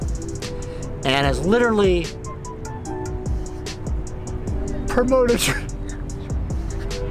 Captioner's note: sniffles